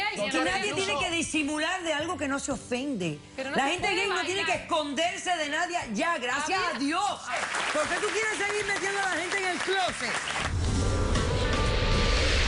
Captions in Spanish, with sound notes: >>AQUI NADIE TIENE QUE DISIMULAR DE ALGO QUE NO SE OFENDE. LA GENTE GAY NO TIENE QUE ESCONDERSE DE NADIE YA, GRACIAS A DIOS. [APLAUSOS] ¿POR QUE TU QUIERES SEGUIR METIENDO A LA GENTE EN EL CLOSET?